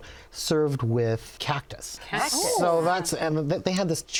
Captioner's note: ladies exclaiming